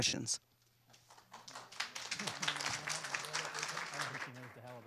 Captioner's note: audience applauds